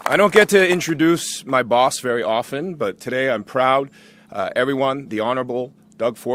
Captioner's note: applause